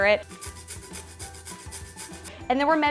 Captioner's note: carrot grating